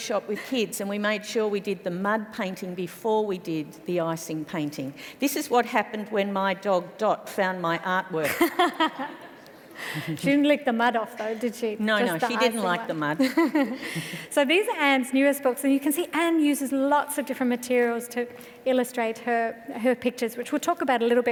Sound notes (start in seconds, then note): 9.8 laughs